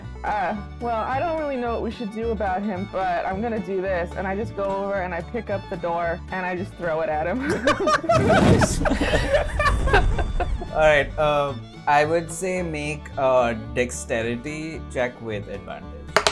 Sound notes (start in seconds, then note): 7.3 laughter